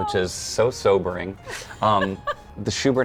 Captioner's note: laughs